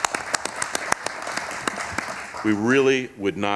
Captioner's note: applause